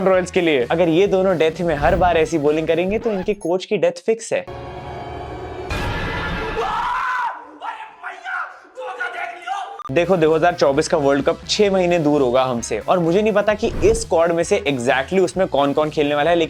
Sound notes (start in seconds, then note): 4.5 eerie music playing; 6.5 shouts